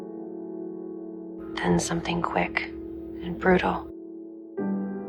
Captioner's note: voiceover; voiceover